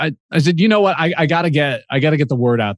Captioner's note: chuckles